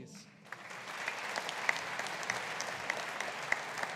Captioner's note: audience applauding